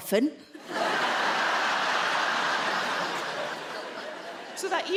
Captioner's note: audience laughing